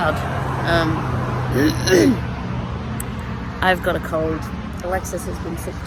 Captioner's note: clears rough-sounding throat